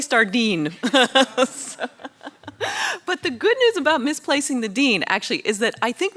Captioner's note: laughs